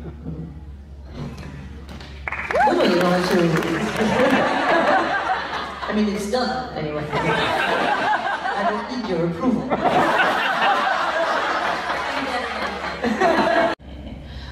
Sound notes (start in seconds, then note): 2.2 applause & laughs; 7.1 laughs